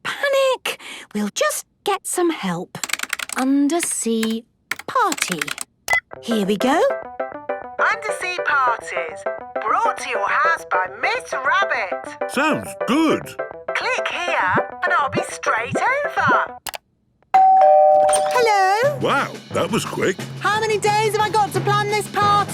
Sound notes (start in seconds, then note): 5.9 beep; 17.3 doorbell ringing